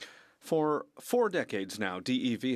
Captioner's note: speaking French